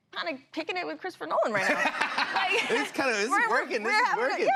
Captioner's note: laughter